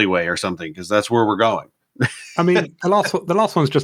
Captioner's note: laughs